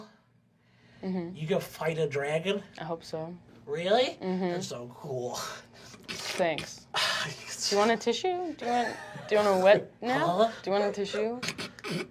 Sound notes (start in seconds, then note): 5.8 wipes his nose and sniffs wetly